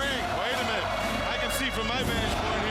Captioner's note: crowd cheering